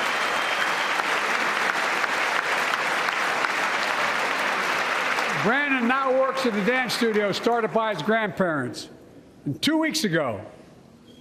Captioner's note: applause